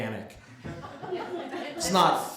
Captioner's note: laughter